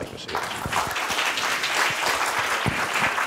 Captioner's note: applause